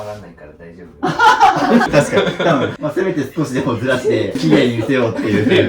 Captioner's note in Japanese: 笑い